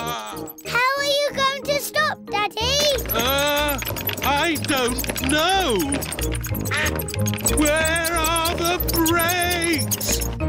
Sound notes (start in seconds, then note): 6.6 quacking